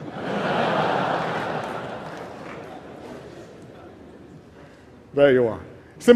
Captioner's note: laughter